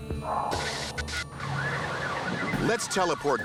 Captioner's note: emergency sirens